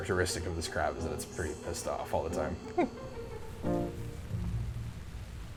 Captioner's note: chuckles